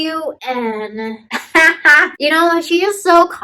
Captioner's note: laughing